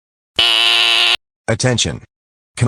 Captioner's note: buzzer